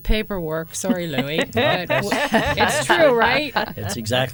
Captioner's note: laughter